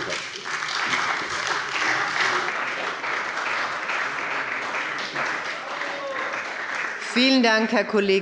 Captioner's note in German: Beifall bei der CDU und dem BÜNDNIS 90/DIE GRÜNEN